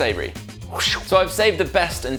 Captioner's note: makes whooshing noise